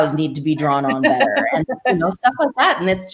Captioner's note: laughs